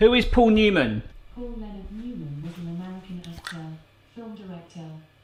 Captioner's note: distant speaking